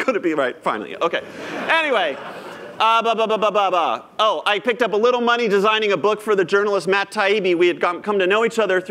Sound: laughter

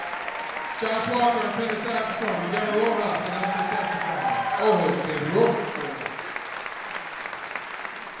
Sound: applause drowns speech

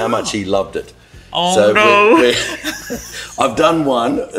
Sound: laughing

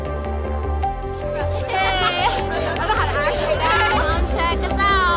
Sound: laughing

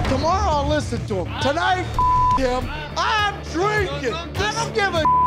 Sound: beep; beep

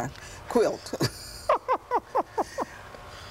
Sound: laughter

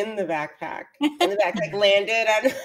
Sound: laughs

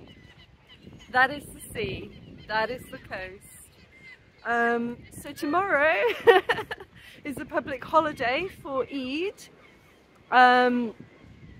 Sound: laughing

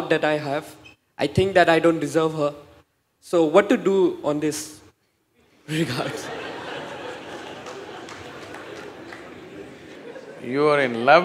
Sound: laughs/Laughter

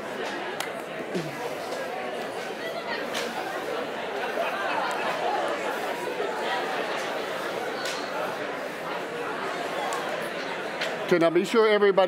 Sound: crowd conversation

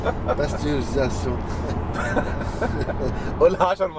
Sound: laughs!; laughs!

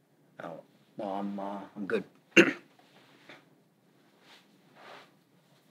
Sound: clears throat

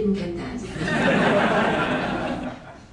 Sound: laughter

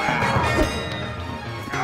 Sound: grunts; metallic clang; woosh

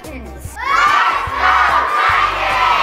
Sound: cheering

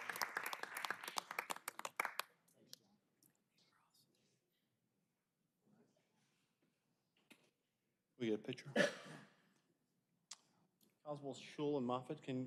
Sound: applause

